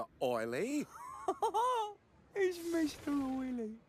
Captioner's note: chuckles